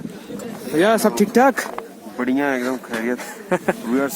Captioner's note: laugh